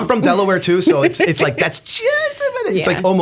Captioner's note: laughter